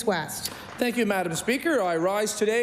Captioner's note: applause